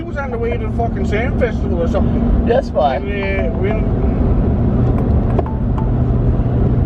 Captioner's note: work phone rings